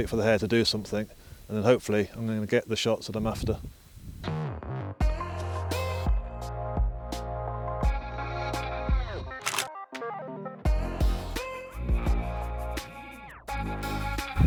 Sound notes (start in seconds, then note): 4.7 mellow music; 9.4 shutter clicks; 11.1 mellow music